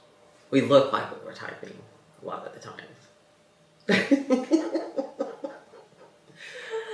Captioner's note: laughs